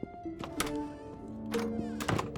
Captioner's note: door opens